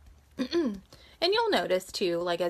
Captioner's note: clears throat